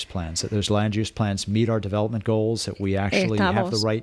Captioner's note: Hablando ingl\s